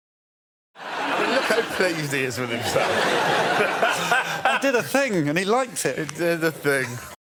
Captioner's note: laughs